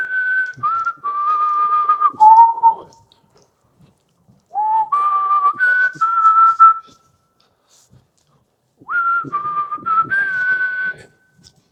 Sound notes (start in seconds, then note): 8.8 whistles